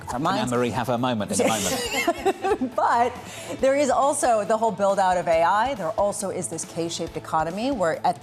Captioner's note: laughter